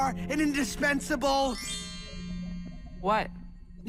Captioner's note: chimes trill